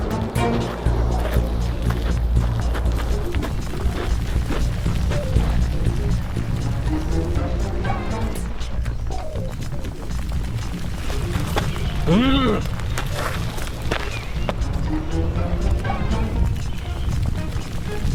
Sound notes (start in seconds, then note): 0.1 uptempo music continues; 11.5 Og grunting; 14.5 uptempo music continues